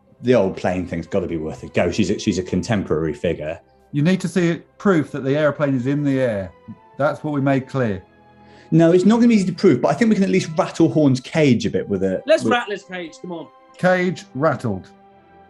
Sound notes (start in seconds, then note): none